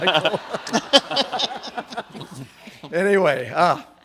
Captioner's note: audience laughs